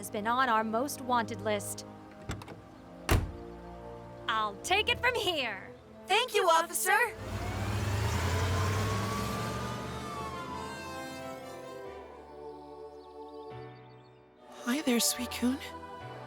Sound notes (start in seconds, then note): 7.8 siren wailing; 11.2 dreamy music